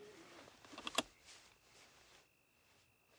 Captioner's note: seat belt clicks